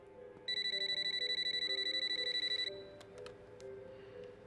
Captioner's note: telephone ringing